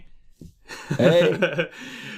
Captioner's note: laughs